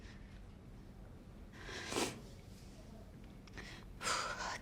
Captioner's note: sniffling